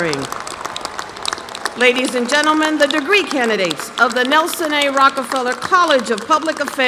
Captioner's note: applause